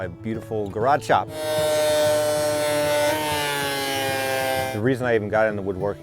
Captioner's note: saw cutting wood